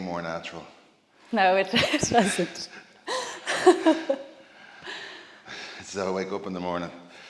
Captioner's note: laugh